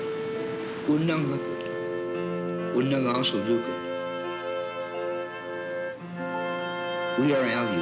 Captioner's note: aleut native language